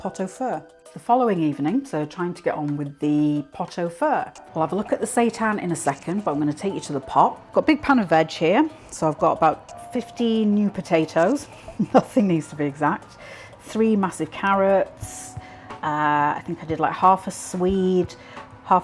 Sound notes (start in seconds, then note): 11.5 laugh